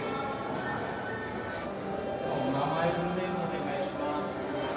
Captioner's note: crowd murmuring